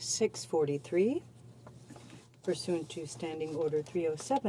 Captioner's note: speaking French